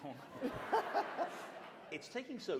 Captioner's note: laughter